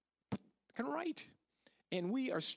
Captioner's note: pop